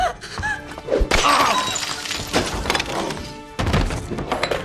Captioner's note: person on floor whimpers; coffee pot shatters